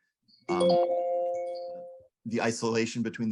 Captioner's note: bell dinging